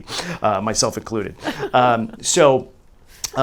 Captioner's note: laughs